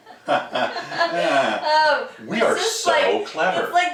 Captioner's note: laughing